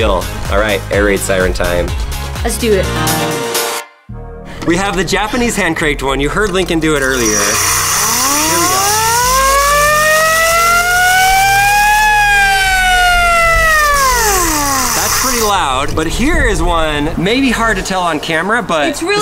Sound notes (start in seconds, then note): 3.3 upbeat music; 7.4 siren